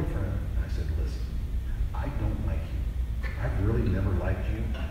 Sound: laughs

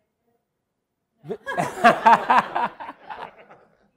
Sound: laughter

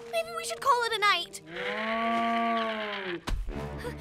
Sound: growl

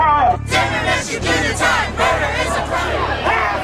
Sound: man shouting through megaphone; crowd chanting

